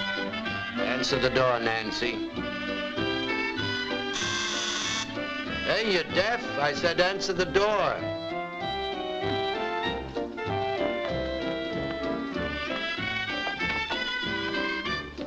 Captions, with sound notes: - Answer the door, Nancy. (bright music) (doorbell buzzes) Hey, you deaf? I said answer the door. (bright music)